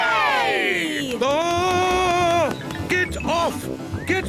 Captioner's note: screams